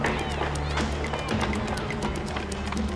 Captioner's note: clamoring voices